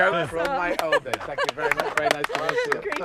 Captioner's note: clapping and laughing